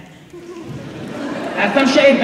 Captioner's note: laughter